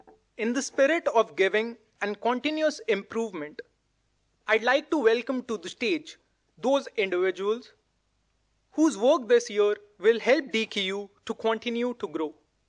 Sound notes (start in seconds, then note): none